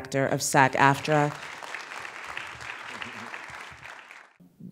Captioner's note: applause